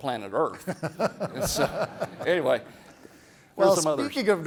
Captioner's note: everybody laughs